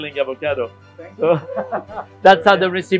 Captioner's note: laughing